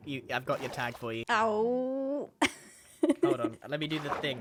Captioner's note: laughs